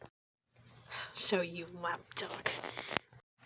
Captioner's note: sighs